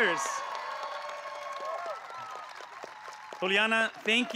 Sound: applause

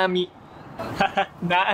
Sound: laugh

